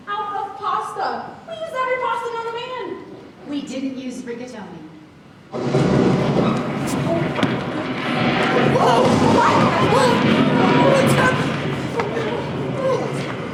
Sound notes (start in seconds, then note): 5.6 thunder crashes; 7.0 children gasp